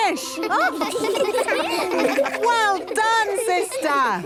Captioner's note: children laughing